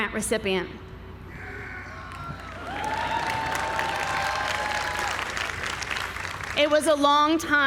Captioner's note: applause